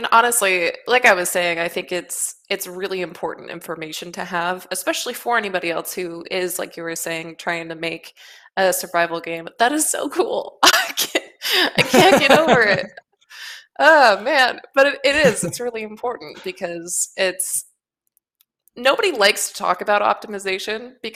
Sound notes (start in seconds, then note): 11.5 laughs